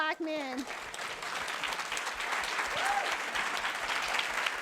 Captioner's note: audience clapping